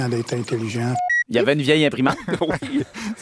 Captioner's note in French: rires